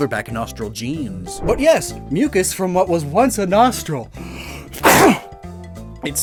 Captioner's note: sneeze